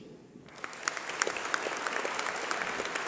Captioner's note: applause